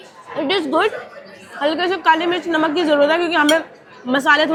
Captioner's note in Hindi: none